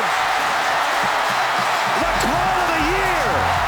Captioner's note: crowd cheering wildly